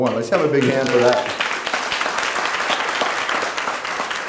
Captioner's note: clapping